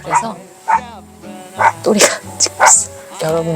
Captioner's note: Tori barking, while staying with my parents